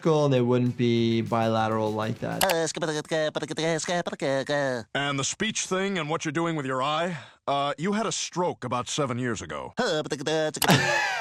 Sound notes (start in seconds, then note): 2.7 Popeye stuttering; 10.1 Popeye stuttering; 10.6 laughter